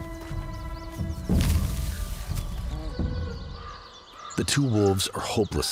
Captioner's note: bear shuffles in grass